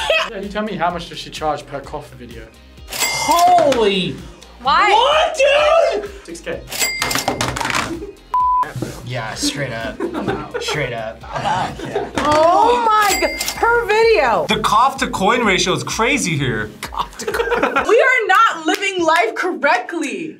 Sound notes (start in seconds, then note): 0.0 laughs; 2.8 cash register dings; 16.8 laughs